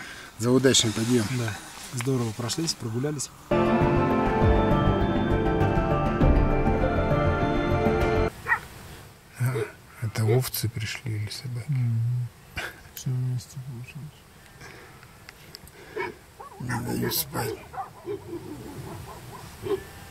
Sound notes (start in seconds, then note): 8.4 лай собак